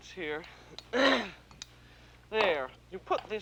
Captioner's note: clears throat